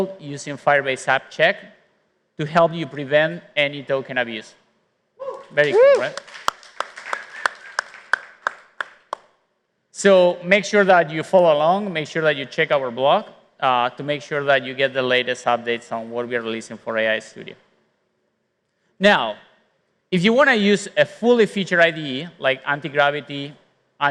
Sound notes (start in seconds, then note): 6.9 applause